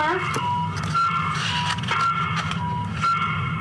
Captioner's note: flipping pages